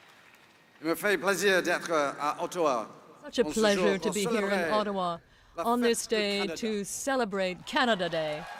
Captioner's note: applause